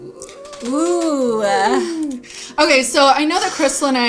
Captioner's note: both exclaim